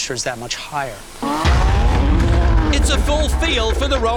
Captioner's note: engines revving